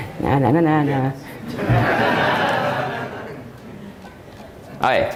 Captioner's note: audience Laughing